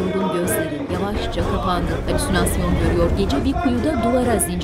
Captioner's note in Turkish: Dua sesleri